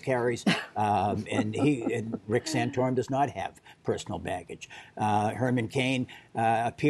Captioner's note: laughter